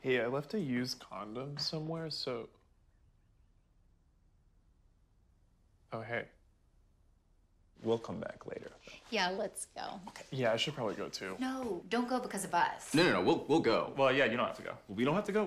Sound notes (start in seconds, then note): none